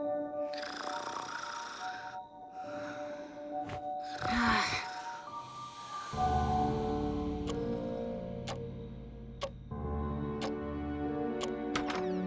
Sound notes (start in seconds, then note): 0.5 Jessa snores; 8.4 clock ticking; 9.8 suspense music